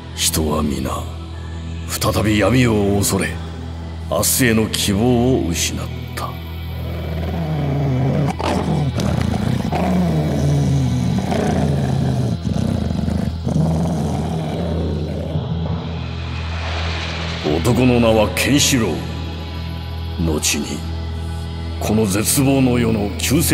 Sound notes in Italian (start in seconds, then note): 6.6 ringhio minaccioso